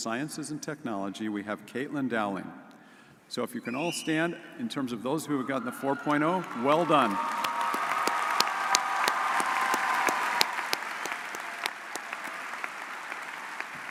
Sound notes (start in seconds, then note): 7.7 audience cheers